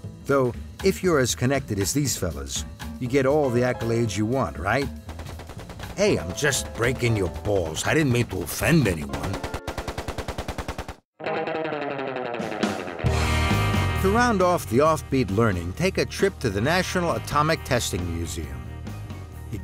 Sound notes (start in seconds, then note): 5.1 sound of machine gun fire